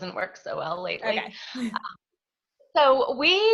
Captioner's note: laughs